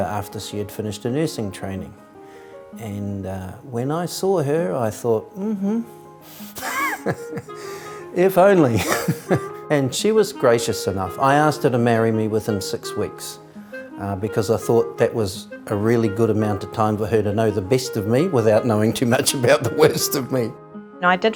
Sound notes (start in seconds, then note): 6.4 laughs; 20.7 laughs